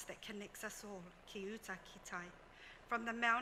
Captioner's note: speaks foreign language